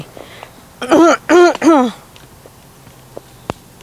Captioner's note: clears throat